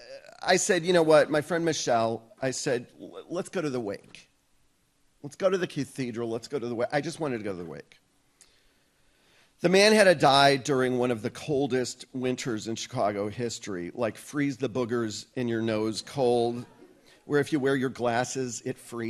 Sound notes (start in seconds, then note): none